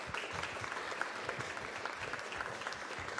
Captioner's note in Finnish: Aplodeja